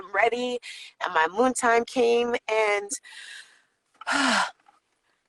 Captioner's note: sighs